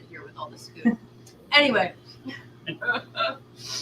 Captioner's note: laughter